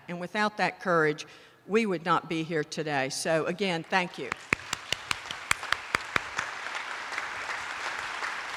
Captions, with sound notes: and without that courage, we would not be here today. So again, thank you. (attendees applauding)